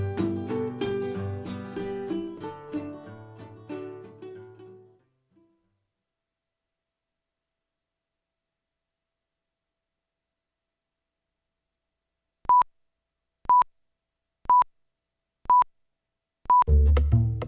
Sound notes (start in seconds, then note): 12.1 beeping; 16.7 jazzy groove music